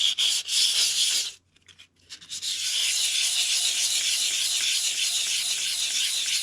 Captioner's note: scratchy sound of sandpaper